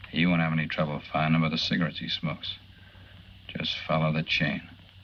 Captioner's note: none